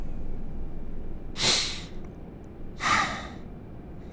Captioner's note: KIA inhales and exhales